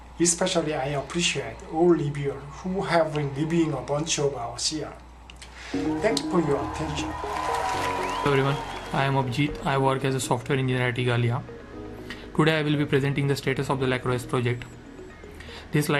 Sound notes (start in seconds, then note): 5.8 cheers, applause